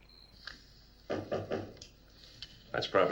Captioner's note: knocking